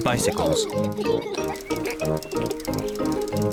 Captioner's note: both giggling; bicycle bell ringing